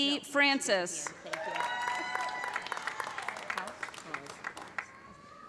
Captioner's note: cheers and applause